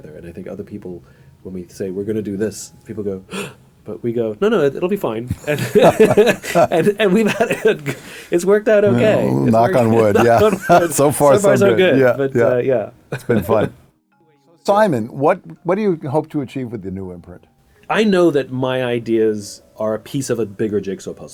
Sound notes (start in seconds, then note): 3.3 gasp